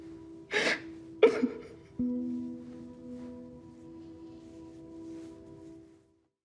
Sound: sobbing

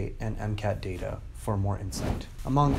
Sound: whooshing

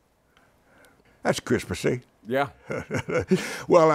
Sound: chuckles

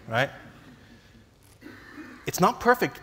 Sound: laughs

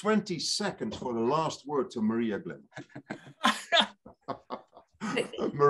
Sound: laughs

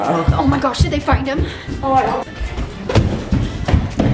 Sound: stomping

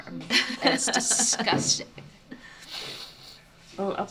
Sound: mother laughs

